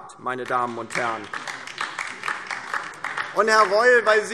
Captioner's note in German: Beifall DIE LINKE